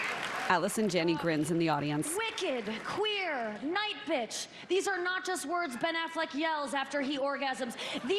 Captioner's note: laughter and applause